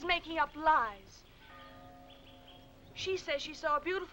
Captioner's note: bell tolling